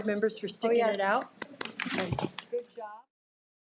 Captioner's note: audience applauding